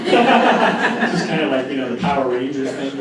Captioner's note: laughter